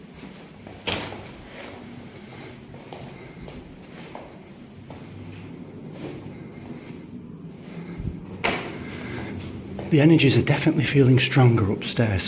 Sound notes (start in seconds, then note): 1.2 footsteps echo